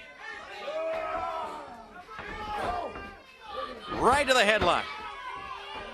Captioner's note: crowd chatter